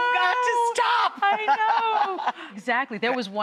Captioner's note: laughing